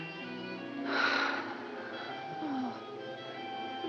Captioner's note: sighs, moaning continues